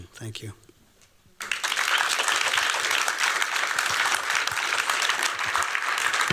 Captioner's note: applause